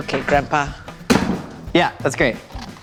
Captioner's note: bang